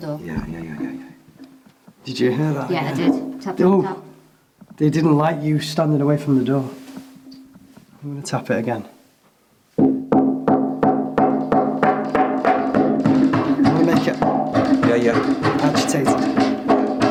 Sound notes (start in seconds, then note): 9.9 door banging